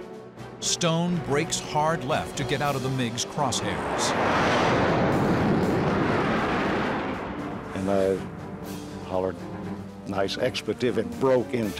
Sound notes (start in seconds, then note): 4.3 airplane engines roar